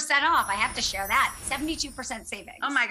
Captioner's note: twinkles